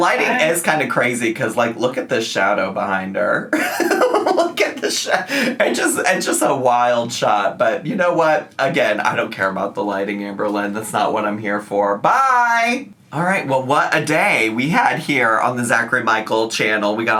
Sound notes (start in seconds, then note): 3.5 laughs